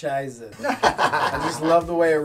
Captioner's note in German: Alle lachen